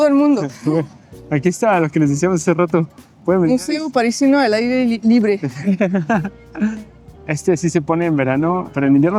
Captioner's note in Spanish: risas